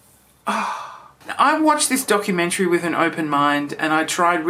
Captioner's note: sighs